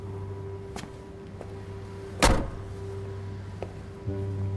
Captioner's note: door slams; light dramatic music